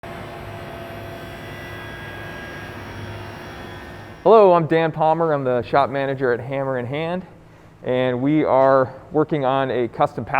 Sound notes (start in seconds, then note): 0.1 distant sound of a saw blade whirring